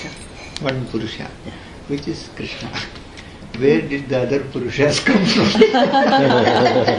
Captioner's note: laughs